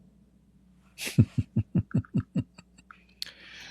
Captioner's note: Ketawa